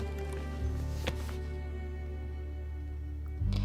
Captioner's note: laptop closes